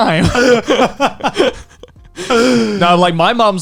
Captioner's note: laughing loudly